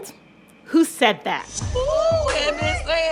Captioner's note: soundbite of tv show, "real housewives of atlanta"